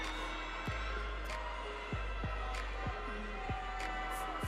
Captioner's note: audience cheering